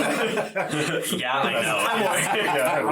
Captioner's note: all laugh